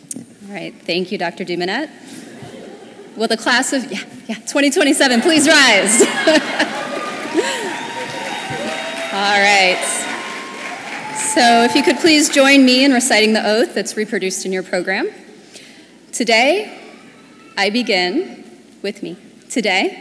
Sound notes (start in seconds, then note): 5.1 laughter; 8.4 applause